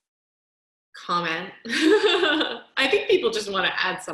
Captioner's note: laughter